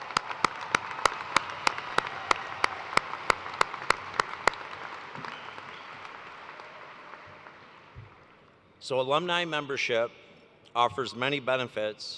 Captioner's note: cheers and applause